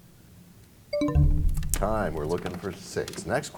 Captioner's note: bell chimes, time expires